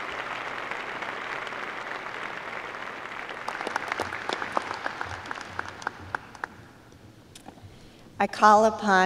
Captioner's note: applause